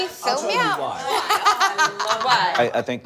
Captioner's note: laughter